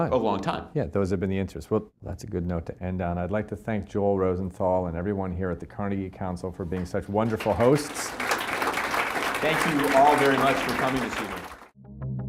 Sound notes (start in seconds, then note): 7.2 audience applauding